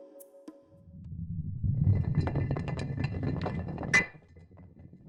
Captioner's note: rock rolling